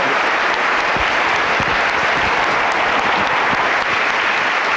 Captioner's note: applause